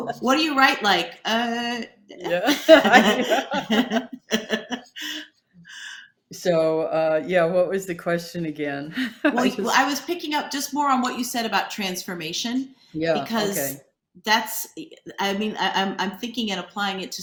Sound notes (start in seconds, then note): 2.3 both laughing